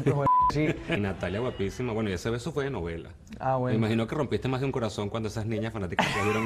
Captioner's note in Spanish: risas